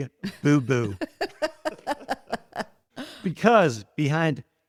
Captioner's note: both laughing